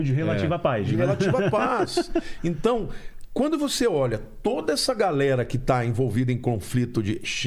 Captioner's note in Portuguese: risadas